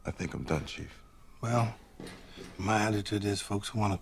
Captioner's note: none